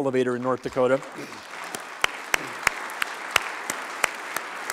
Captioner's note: applause